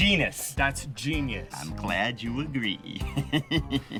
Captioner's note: laughs